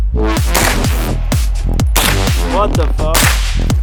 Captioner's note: gun clicks; gun firing